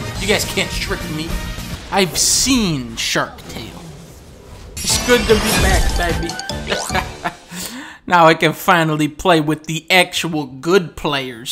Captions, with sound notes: You guys can't trick me. I've SEEN Shark Tale. It's good to be back baby. *laughs* Now I can finally play with the actual good players.